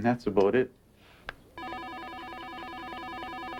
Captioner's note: phone ringing